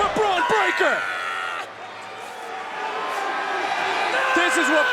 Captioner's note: Bron screams